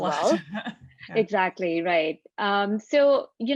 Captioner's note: laugh